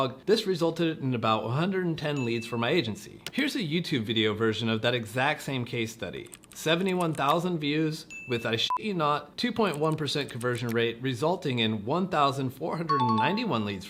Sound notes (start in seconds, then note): 8.6 beep